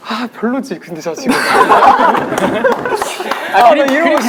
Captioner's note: laughing